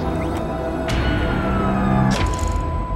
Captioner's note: siren wails